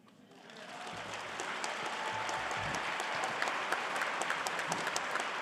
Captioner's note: audience cheering and applauding